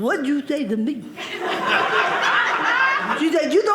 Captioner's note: audience laughing